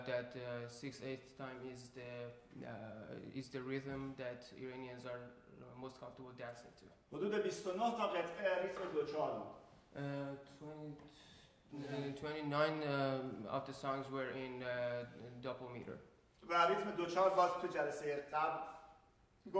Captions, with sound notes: that 6/8 time is the rhythm that Iranians are most comfortable with dancing to. [SPEAKING IN FARSI] 29 other songs were in double meter. [SPEAKING IN FARSI]